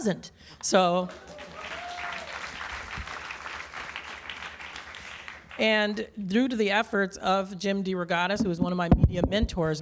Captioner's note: applause